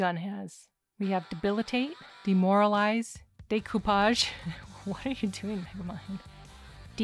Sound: laughing

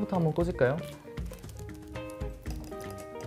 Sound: rustle Rustle

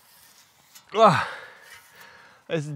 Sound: grunts

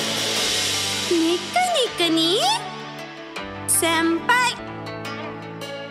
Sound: speaking in Japanese

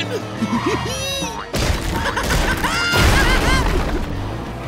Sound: laughing

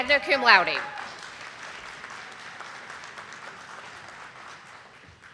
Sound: audience applauding

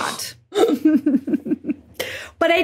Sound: both snickering

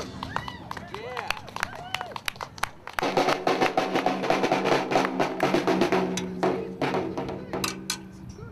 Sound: crowd applauding

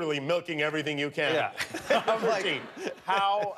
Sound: laughter

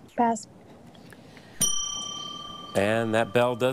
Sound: bell dings

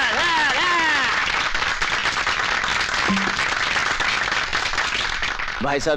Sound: applauding

